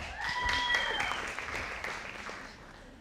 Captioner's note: audience applauding